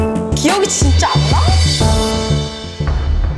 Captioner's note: speaking Korean; intense music